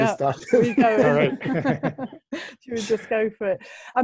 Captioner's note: alle lachen